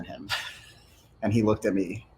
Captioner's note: chuckles